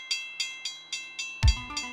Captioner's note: railroad bells ringing